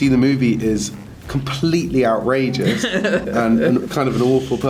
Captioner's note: Rian laughs